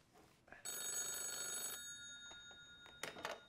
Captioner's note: telephone rings